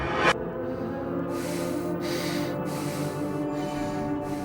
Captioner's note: man panting